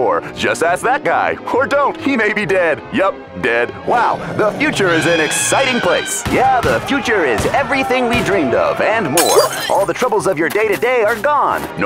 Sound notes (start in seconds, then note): 3.6 growling